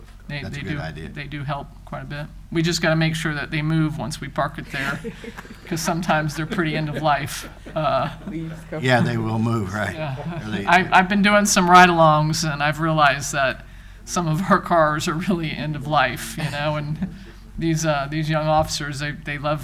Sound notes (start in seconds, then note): 5.6 laughing; 8.0 all laughing